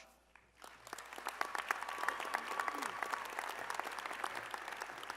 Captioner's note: applause